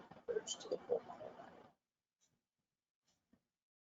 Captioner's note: audio is choppy